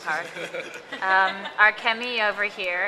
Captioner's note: laughter